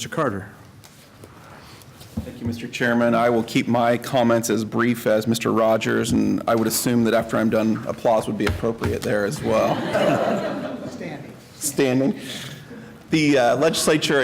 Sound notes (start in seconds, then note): 9.4 laughter